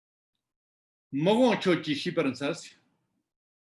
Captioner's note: tibetan